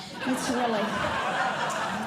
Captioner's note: audience Laughing